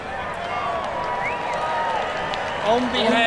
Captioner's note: crowd cheers and claps